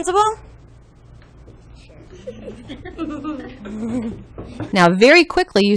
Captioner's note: students laugh